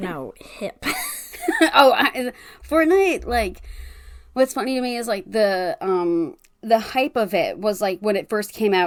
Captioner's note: laughs